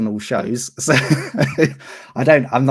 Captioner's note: laughs